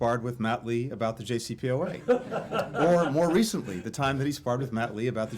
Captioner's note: laughter